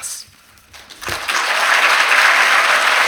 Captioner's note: applause